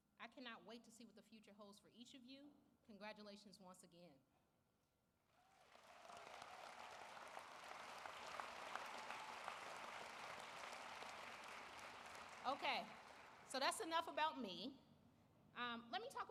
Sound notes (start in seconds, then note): 3.1 applause